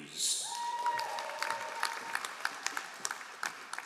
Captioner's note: all applauding